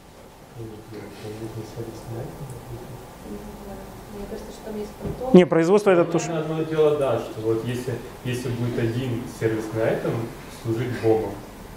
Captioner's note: discussion in the audience